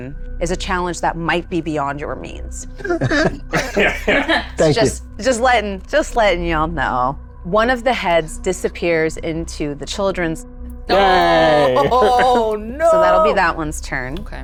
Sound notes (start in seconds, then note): 2.8 group laughs; 10.9 laughs